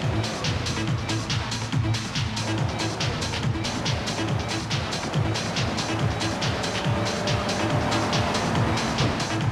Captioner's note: engine revving